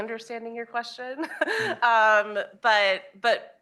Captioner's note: chuckling